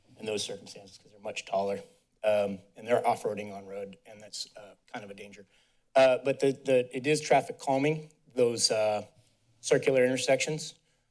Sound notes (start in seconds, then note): none